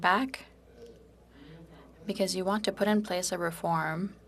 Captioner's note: speaking French